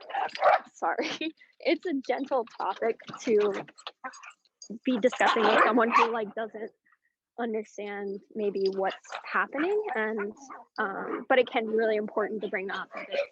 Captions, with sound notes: [dog barking] it's a gentle topic to be discussing with someone who doesn't understand maybe what's happening, but it can be really important to bring up